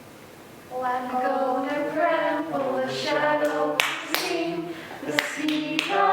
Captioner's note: clapping